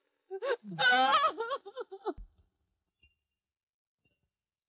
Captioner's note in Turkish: hiçkirarak ağlar